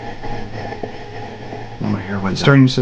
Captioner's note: radio static hissing